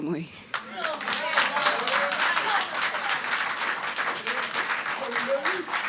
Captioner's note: audience applauding